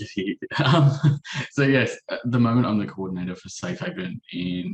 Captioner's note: chuckles